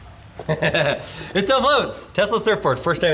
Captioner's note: laughing